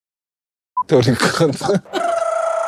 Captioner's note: laughter